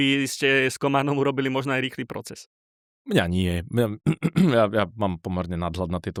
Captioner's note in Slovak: odkašľanie